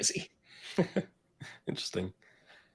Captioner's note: laughs